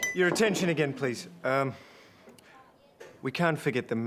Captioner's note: glass dinging